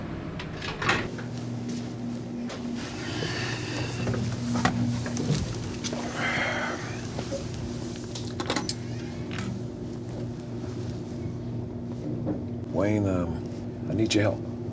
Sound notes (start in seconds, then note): 6.0 Dwight sighs